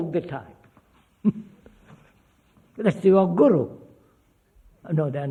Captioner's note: laughs